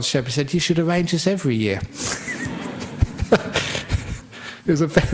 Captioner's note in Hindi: हँसी